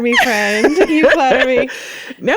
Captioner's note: laughing